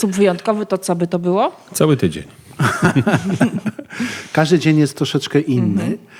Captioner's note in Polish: śmiech